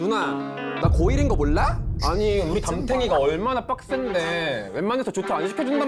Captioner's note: sound effect for hearing “homeroom teacher” after years